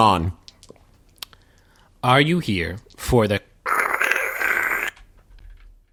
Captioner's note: static noise